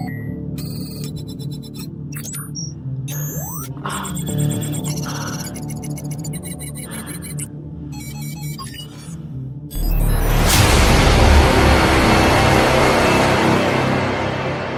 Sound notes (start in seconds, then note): 5.1 Stealth grunts; 9.7 dramatic music